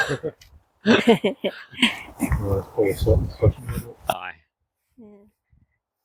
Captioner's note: laughter